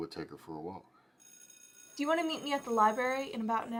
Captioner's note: bell ringing